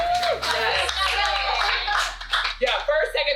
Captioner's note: cheering